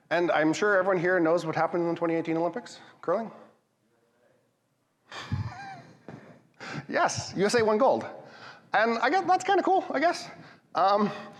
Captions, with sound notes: And I'm sure everyone here knows what happened in the 2018 Olympics curling. - USA. (laughs) Yes. USA won gold. And I guess that's kind of cool. I guess.